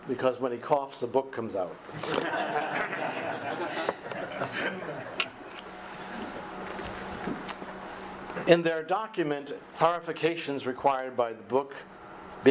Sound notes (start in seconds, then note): 2.9 audience applause